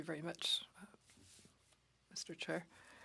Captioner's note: speaking FRENCH